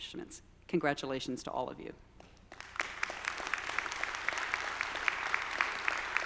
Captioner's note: audience applauding